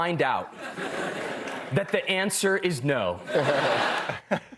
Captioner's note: laughter